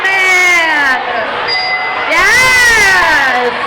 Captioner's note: dinging